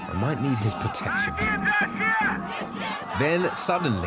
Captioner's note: crowd chanting in foreign language